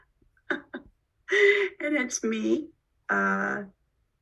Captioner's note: laughs